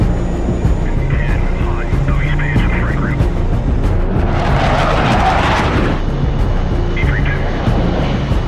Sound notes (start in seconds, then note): 0.7 people chattering on radio; 4.5 jet engines roaring